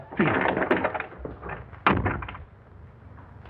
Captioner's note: door closes